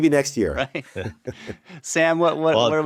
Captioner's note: laughs